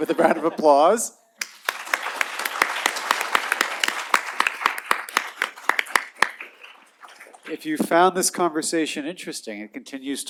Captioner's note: applause